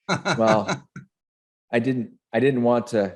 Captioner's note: laughing